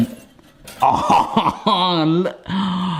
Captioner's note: laughs